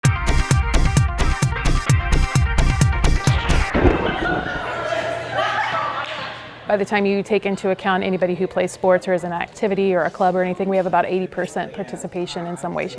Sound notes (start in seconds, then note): 0.0 energetic music; 3.2 laughing